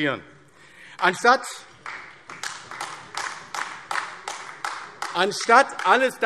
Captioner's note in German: Beifall AfD